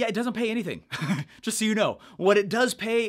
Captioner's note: chuckles